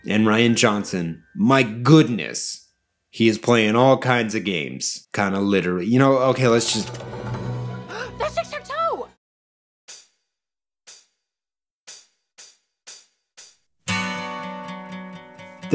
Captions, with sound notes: And Rian Johnson, my goodness, is playing all kinds of games … quite literally. *gasp* "That's tic tac toe!"